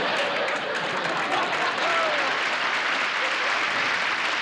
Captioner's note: laughter; applause